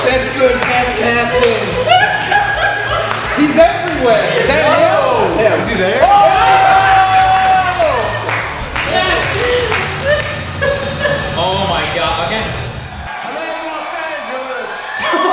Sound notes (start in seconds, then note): 5.9 cheering; 10.1 clapping; 15.1 laughing